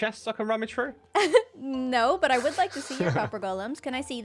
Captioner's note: laughs